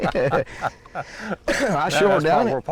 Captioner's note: both laughing